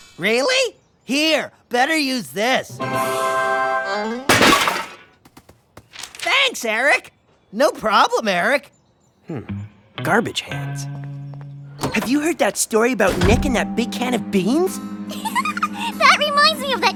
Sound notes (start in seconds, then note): 4.3 garbage can clatters; 15.1 giggles